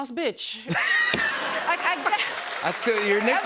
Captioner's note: laughter